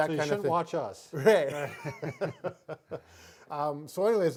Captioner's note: both laugh